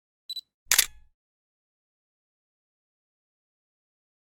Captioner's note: camera click